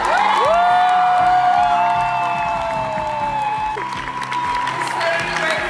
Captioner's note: applause, cheers